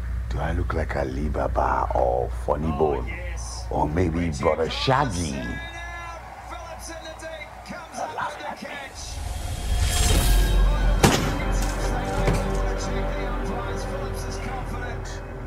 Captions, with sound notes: Do I look like Alibaba or funny boy? Or maybe Broda Shaggi. You're laughing at me. (gun fires) Idiot.